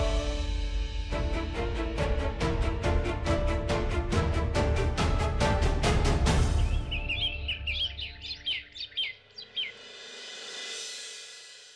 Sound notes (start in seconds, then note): 2.6 pensive music playing; 6.0 birds chirping